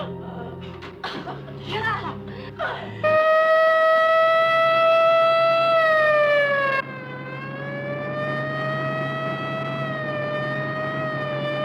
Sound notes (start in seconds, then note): 2.9 sirens wailing